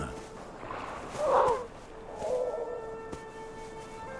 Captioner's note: seal pup crying